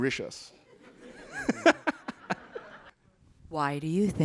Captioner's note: audience laughing